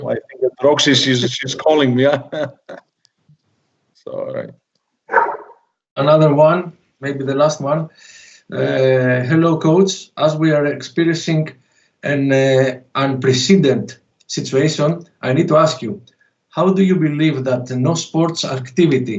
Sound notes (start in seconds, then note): 0.0 laughs; 5.1 dog barks again